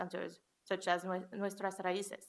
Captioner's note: foreign language